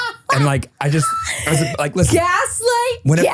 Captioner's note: person laughing